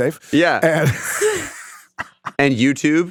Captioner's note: laughs